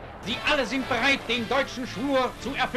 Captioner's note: speaking in German